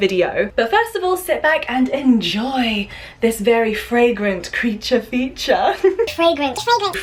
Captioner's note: giggles